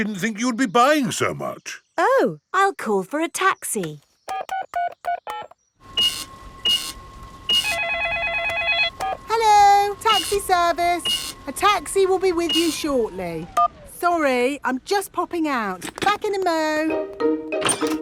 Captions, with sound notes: I didn't think you would be buying so much! Oh, I'll call for a taxi. (DIALING) (CASH REGISTER BEEPING) -(CELLPHONE RINGING) -(BEEPS) Hello, Taxi Service. A taxi will be with you shortly. Sorry, I'm just popping out. Back in a mo'.